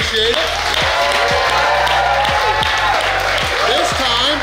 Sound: cheering & Clapping

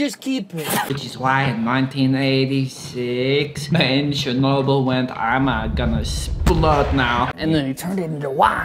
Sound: quiet 'boom!' soundeffect

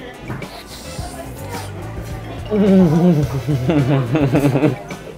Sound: slurps and moans

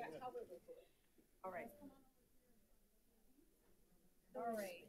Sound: crowd chattering

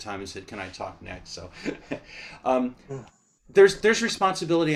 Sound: laughter

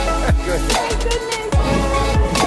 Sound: laughs

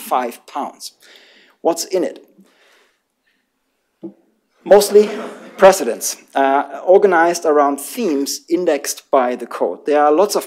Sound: laughter

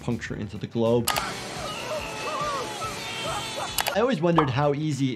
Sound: people screaming

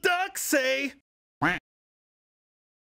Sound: quack

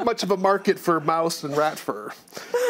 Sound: others laugh

